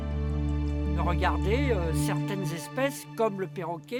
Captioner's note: speaking French